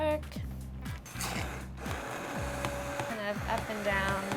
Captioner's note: blender whirring